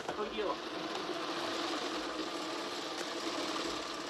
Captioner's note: sewing machine whirring